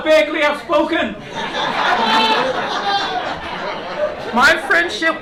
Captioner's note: laughter